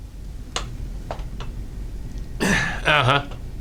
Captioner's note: objects rustling